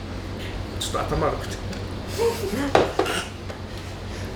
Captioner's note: laughs